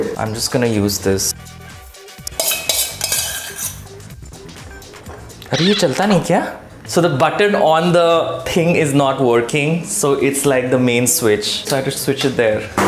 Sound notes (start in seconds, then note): 2.3 cutlery clinking